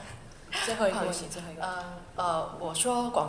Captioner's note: Mandarin